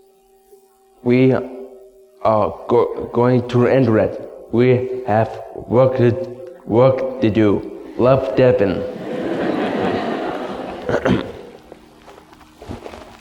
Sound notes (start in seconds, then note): 8.8 audience laughs softly